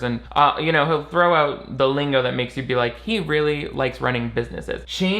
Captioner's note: none